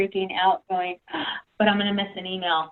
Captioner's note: gasp